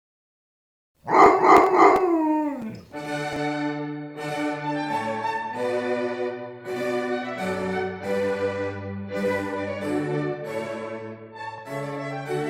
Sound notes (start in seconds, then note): 1.0 bark